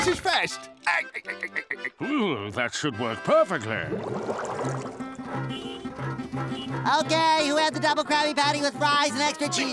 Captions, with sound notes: [laughing] Hmm! That should work perfectly! [honking] Okay! Who had the Double Krabby Patty with fries and extra chee-?